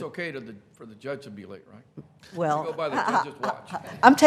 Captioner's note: laughing